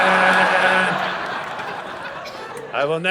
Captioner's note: audience laughing